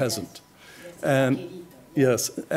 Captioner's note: spanish